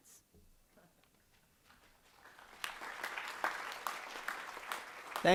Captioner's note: applause